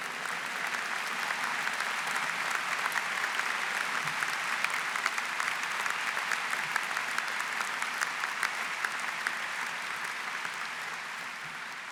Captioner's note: applause